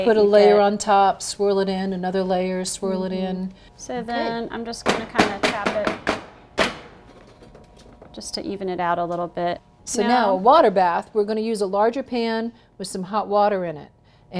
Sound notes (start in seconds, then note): 6.1 clanging